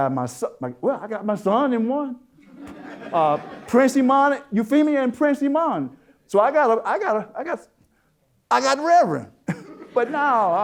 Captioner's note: audience Laughter